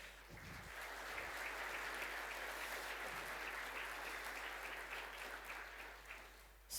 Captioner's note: applause